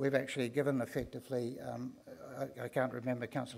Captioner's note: none